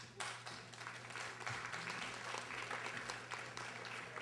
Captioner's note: audience applauding